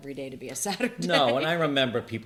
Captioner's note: laughs